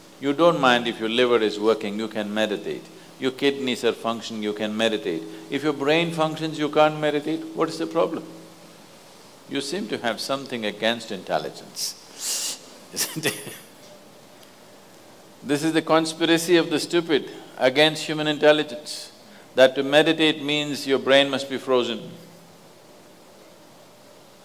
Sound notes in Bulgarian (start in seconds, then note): 12.9 смях